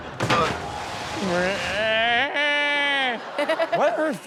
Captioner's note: audience laughs; Rob screeches